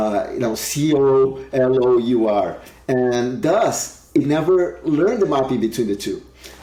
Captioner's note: speaks faintly